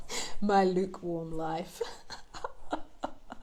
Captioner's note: laughs